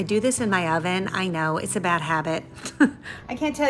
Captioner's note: giggles